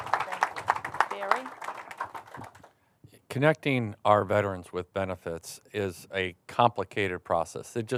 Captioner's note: applause